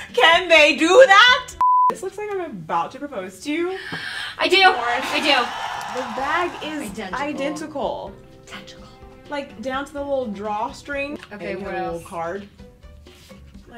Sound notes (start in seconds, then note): 1.6 beep; 4.5 crowd cheers